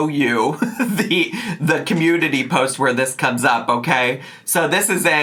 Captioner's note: laughing